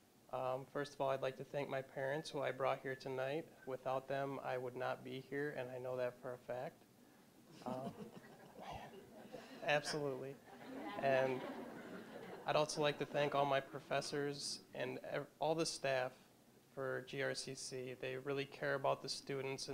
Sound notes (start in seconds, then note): 7.5 audience chuckling